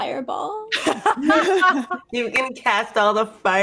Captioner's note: laughs